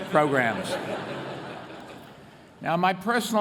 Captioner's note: laughter